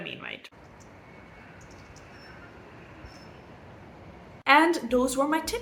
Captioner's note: bird noises